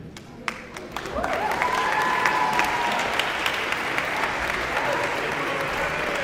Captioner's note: audience applauding and cheering